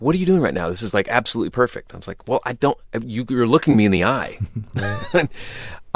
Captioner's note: laughter